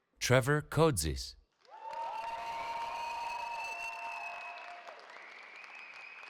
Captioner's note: cheering